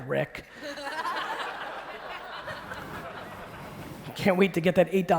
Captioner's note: audience laughing